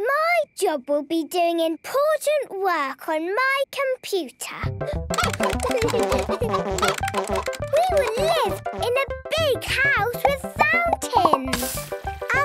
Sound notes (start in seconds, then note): 5.1 keyboard tapping; 5.1 computer game chickens clucking